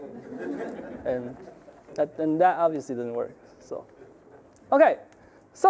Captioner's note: audience laughing